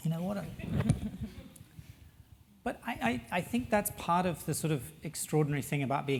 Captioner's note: laugh